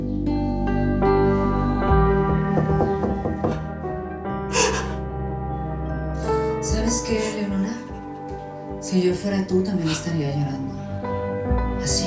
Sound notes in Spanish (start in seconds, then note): 2.5 Toques en la puerta; 4.5 Sollozos